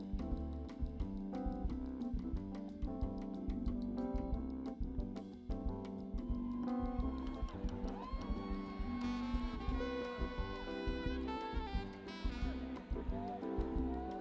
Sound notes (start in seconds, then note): 0.1 upbeat music; 6.2 people cheering